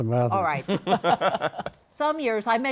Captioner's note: laughter